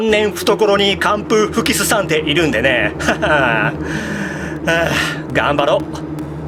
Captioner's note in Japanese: 息をのむ音